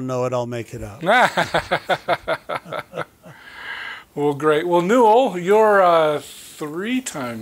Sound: chuckling

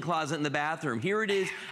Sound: laughter

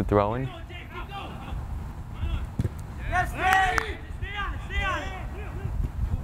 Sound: players talking and yelling

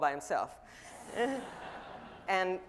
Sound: audience laughing

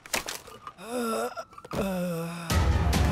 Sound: groaning

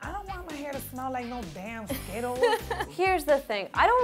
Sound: laughs

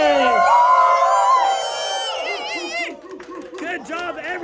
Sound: group cheers

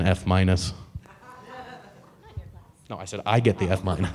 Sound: audience laughing

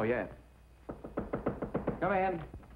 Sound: knocking on door

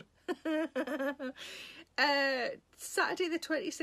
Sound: Sarah laughing

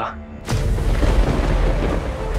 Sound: thundering

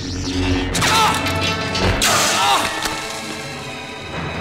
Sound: groans in pain

